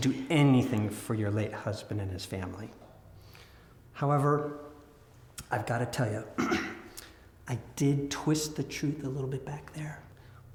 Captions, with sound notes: to do anything for your late husband and his family. However, I've gotta tell you, (clears throat) I did twist the truth a little bit back there.